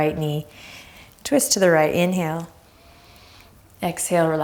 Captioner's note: deep breath